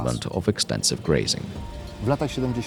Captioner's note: the sound of cow bells